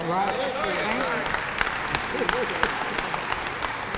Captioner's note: applause